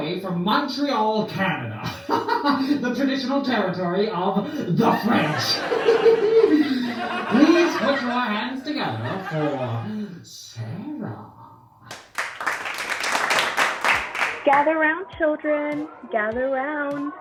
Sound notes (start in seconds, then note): 4.6 laughter; 11.8 clapping